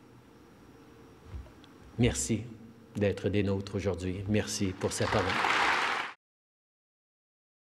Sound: applause

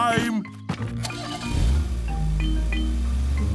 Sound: engine starting

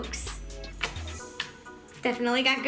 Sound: sploshing

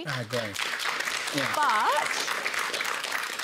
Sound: applause

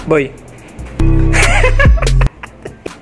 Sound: laugh

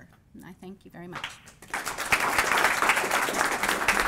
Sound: applause

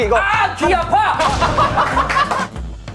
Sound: hahaha

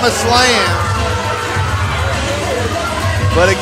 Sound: crowd booing

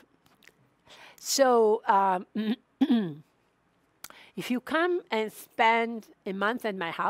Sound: clears throat

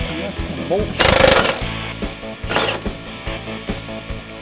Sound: whirring

